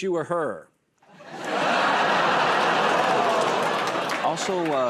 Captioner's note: laughter